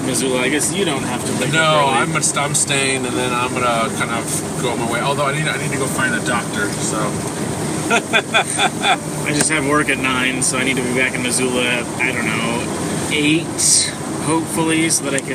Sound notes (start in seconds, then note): 7.8 laughs heartily